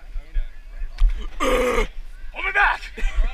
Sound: grunting

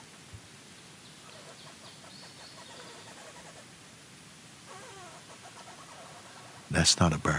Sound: squeaking sounds

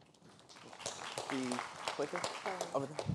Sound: applause

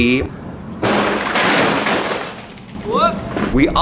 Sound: crash

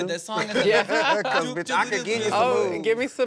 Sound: laughter

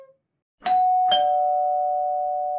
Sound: door bell

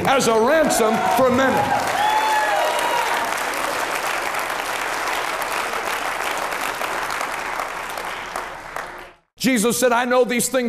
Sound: cheering and applauding

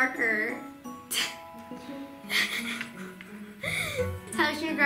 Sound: laughing

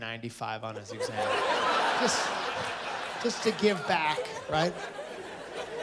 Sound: laughter

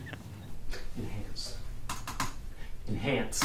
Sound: generic business typing

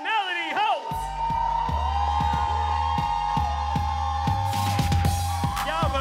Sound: cheers and applause

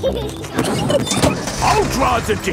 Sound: peppa and george laughing

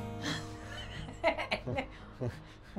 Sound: giggling

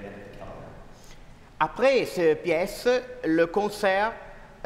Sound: speaking french

